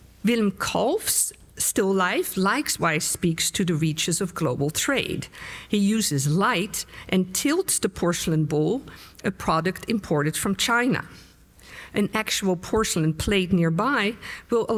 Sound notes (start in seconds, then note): none